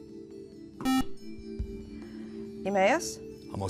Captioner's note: buzzer